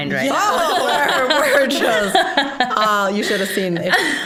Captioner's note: all laughing